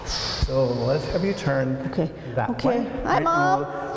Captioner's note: inhales